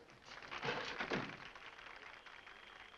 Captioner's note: door closes